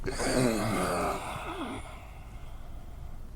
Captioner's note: he groans